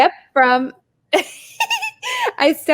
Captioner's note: laughing